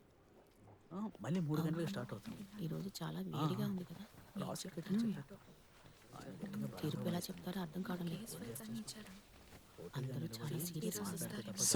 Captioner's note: indistinct chatter